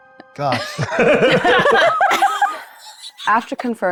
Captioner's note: players laughing